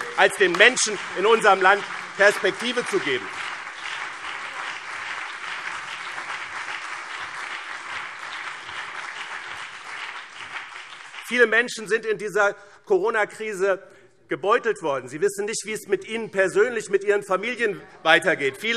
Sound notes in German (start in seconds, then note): 3.5 Beifall BÜNDNIS 90/DIE GRÜNEN und CDU